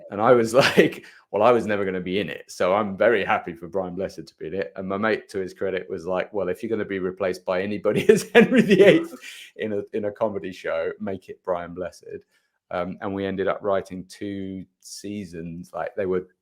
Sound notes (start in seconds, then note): 7.9 chuckles